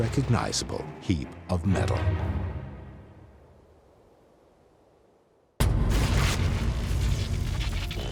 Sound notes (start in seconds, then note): 4.7 thuds; 7.8 buzzing and crackling